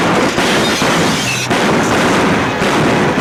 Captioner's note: guns bang